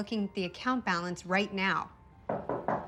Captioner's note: knocking